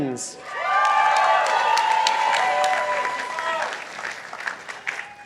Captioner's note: participants applauding